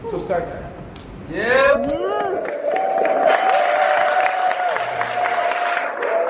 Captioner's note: audience cheering and applauding